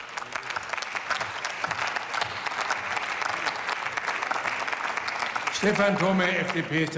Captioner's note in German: Beifall